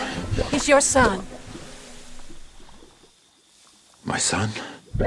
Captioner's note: liquid bubbling